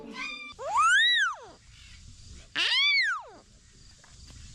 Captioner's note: parrot cheering